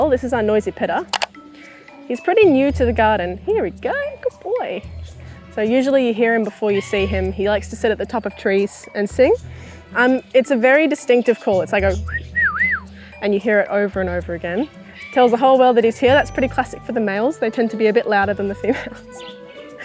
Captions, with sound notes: This is our noisy pitta. He’s pretty new to the garden. Here you go. Good boy! So usually you’ll hear him before you see him. He likes to sit at the top of trees and sing. It's a very distinctive call It’s like a *whistling* And hear it over and over again. Tells the whole world that he’s here, that's pretty classic for the males. They tend to be a bit louder than the females.